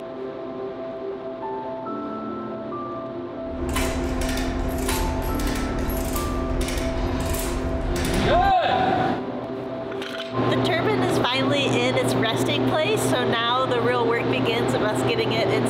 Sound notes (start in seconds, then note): 0.0 peaceful piano music; 3.6 crank clicking